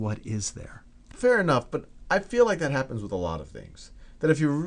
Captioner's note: voiceover